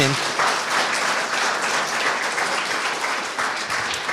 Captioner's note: audience applauding